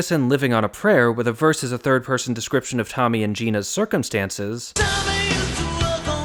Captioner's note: bang